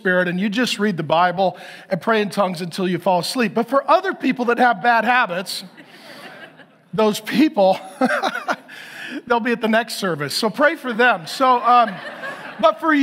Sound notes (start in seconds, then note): 5.7 laughs; 10.8 audience laughs